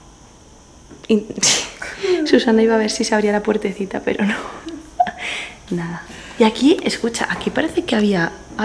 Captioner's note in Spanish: Risas y llanto XD